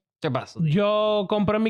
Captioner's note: speaking In Foreign Language